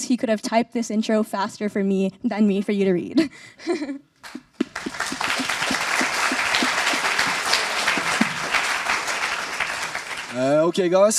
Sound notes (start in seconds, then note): 4.2 applause